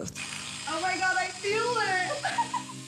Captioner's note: whirring